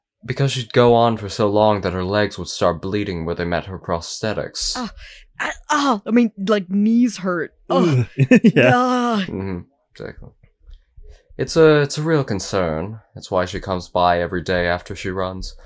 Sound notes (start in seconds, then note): 7.7 titters